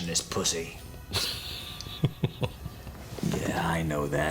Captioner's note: chuckles